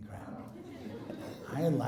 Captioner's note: laughing